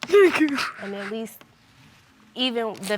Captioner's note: sobbing